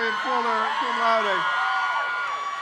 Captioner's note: crowd cheers